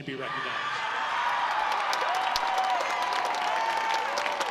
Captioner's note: audience applauds